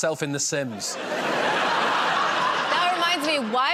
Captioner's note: laughter